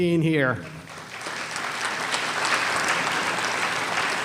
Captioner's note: applause